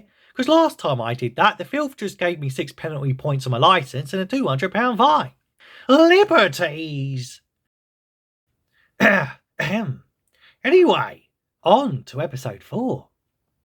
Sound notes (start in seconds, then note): 9.0 ahem